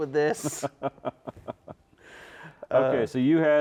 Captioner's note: laughs